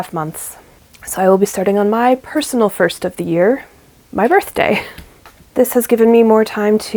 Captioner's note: laughs